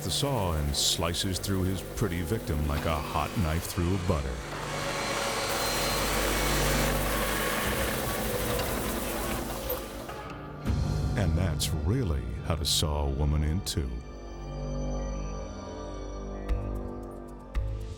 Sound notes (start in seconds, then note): 4.4 saw buzzing; 13.9 light mysterious music